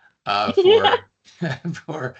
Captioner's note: laughing